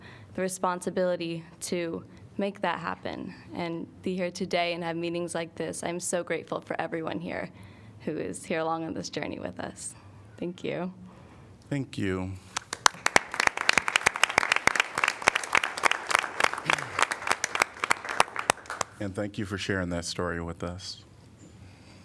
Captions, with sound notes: the responsibility to make that happen and be here today and have meetings like this. I'm so grateful for everyone here who is here along on this journey with us. Thank you. Thank you. [APPLAUSE]. And thank you for sharing that story with us.